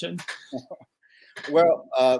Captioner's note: chuckles